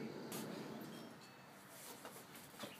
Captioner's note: doorbell rings